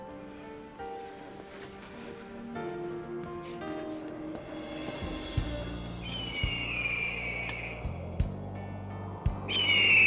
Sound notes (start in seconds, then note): 0.2 somber music; 6.2 bird screeches